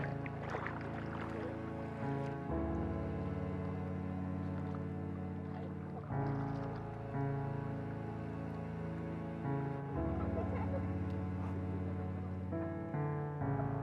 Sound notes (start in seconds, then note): 5.3 water splashes; 10.1 Kimberly and Bethany laugh